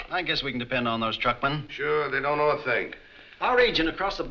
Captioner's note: none